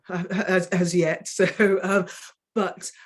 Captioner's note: woman chuckling